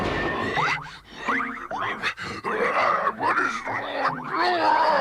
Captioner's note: grumbling